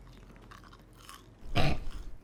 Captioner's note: crunches; snorts